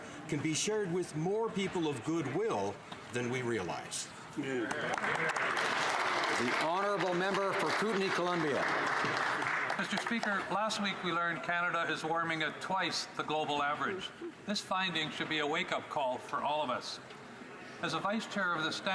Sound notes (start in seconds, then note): 8.4 some Applause